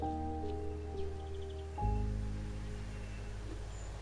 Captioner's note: somber piano music; birds chirping